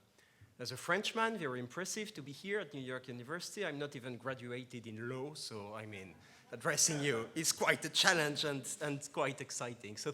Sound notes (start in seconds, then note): 5.9 laughs